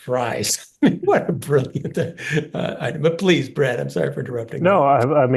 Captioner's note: laugh